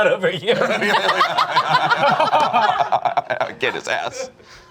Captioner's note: group laughs